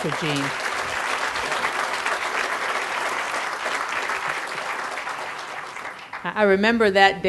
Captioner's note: crowd applause